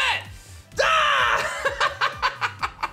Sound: shouts; laughs

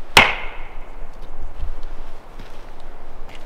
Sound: wood smacking

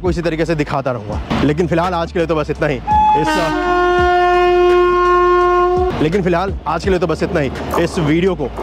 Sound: with train horn in background

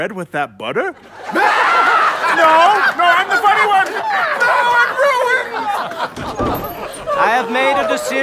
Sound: laughter

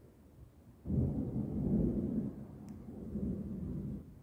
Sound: distant thunder

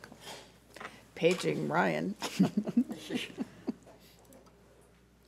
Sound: chuckling

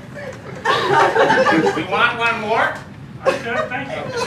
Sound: weird voice

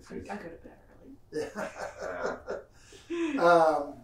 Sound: laughs

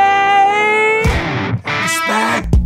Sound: voiceover; funky music

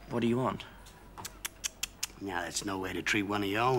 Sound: tutting

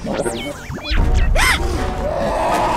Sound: yelp; roar

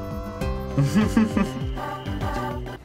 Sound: chuckles

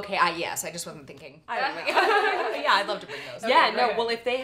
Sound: laughter

